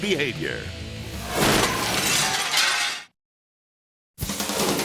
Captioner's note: glass shatters; energetic music